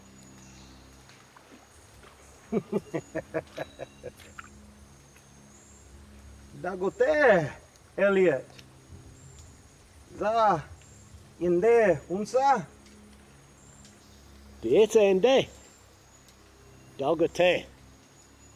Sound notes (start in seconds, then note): 2.5 Two Moons laughing; 6.6 both speaking Native American language